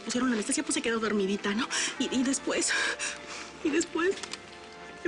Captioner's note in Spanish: Solloza